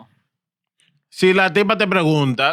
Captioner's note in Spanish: Hablando en idioma extranjero